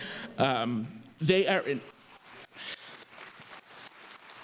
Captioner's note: applause